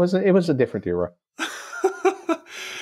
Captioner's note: laughter